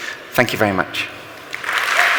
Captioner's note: cheering and Applause